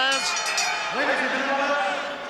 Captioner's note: bell rings